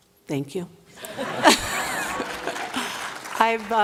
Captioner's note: laughter, applause